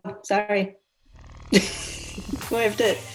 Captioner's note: laughs